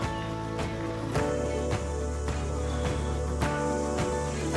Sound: cicadas chirp

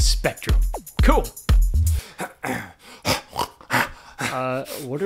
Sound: chuckles; snorts excitedly

